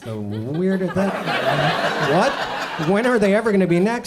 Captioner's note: audience laughs